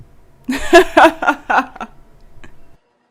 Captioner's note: bartender bursts into a hearty laugh